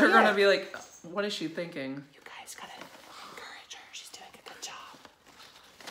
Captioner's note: whispering